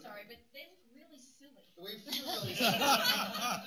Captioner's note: laughter